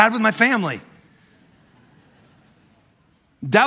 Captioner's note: congregation laughing